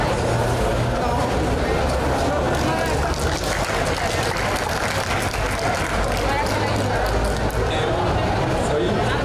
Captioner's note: aplause